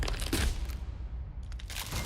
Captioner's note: ice cracks